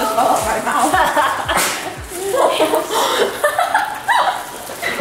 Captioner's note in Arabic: أمي تضحك